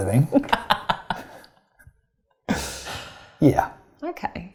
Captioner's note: laughs